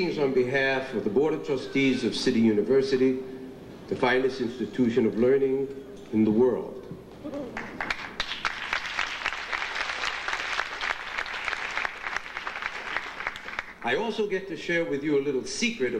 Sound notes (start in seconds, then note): 7.4 audience applauding